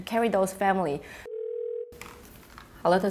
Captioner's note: ringing telephone